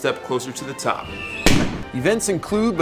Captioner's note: firework exploding